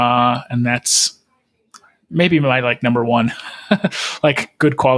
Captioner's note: laughing